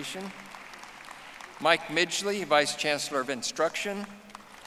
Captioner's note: audience applauding